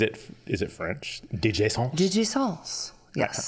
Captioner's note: with French accent